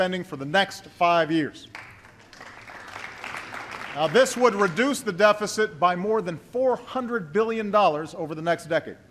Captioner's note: applause